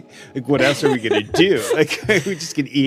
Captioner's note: laughs